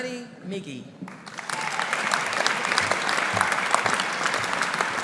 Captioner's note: audience applauding